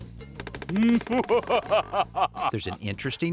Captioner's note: laughs